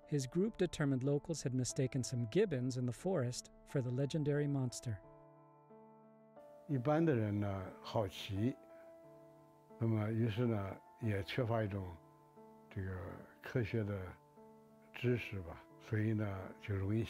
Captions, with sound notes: His group determined locals had mistaken some gibbons in the forest for the legendary monster. - (in foreign language).